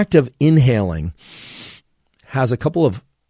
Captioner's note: Andrew inhales deeply